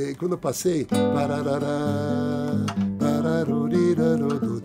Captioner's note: humming